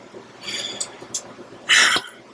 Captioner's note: Buck sighs; Dr. Evans sighs